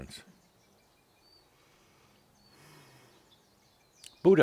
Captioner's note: slight pause